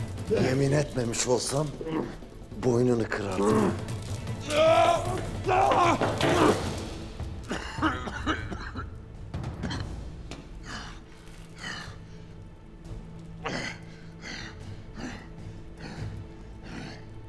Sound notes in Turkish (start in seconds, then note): 4.3 Bağırma sesi; 7.4 Öksürme sesi; 10.2 Nefes sesi